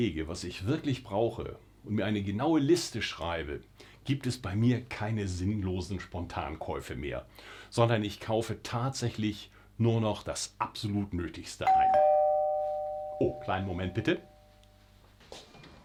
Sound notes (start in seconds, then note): 11.6 doorbell rings